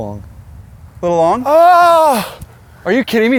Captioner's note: gasps